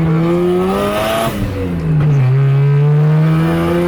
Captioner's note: engine revs